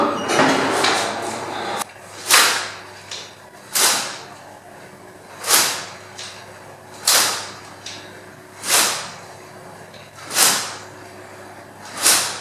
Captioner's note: sword fight